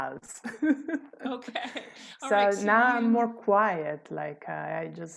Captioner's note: laughter